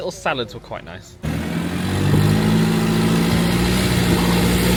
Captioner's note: engine rumbling